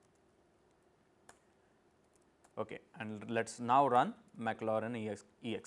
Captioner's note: click